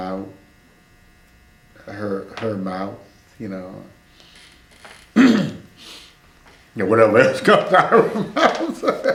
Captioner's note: laughs